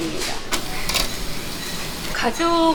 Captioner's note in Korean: 지글 지글